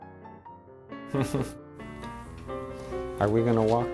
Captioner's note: laughing